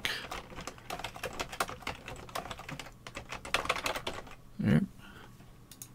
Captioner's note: typing